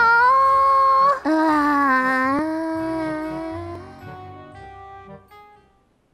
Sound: sighs extensively

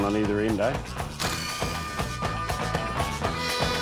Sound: drill

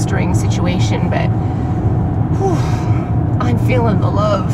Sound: whoo...fff

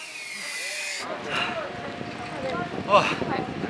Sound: out of breath

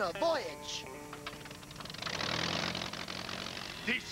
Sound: engine revs

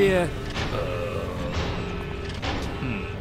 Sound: snake groans

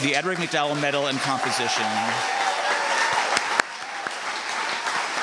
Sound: applause and cheering

